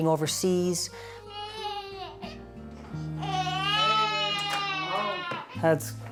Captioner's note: baby crying